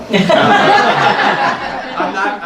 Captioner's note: laughing